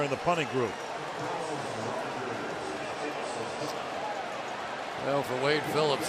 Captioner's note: pa announcement